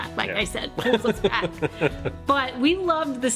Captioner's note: laughing